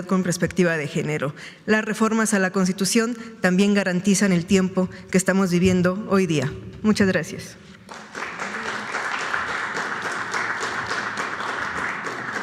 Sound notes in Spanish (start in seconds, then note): 7.8 aplausos